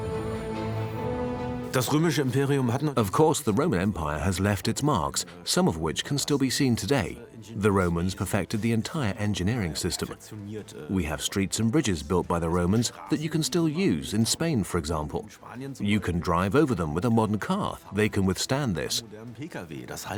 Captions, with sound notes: (in German) (dubbed in English) The Roman Ee left marks that can still be se. The Romans perfected the entire engineering system. We have streets and bridges built by the Romans you can sti. You can drive over them with a . They can withstand this.